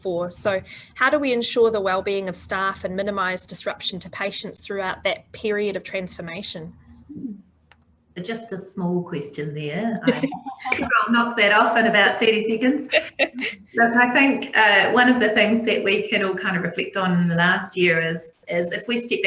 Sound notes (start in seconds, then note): 12.9 laughter